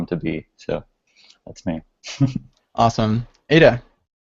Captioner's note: chuckles